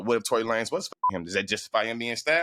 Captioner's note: beep